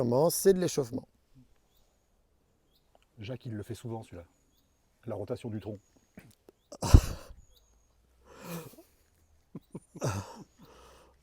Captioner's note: laughs